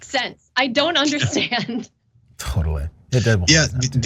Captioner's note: laugh